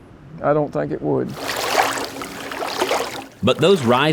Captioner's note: water lapping